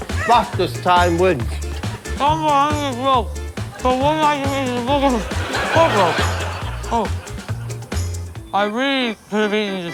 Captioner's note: audience applauding and laughing